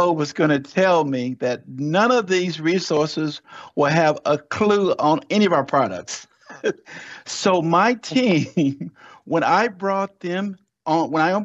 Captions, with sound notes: was gonna tell me that none of these resources will have a clue on any of our products. [laughs] So my team, when I brought them on,